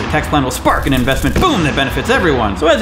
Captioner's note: sparking noises; explosion noise